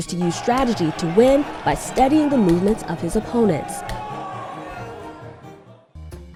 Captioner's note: crowd cheering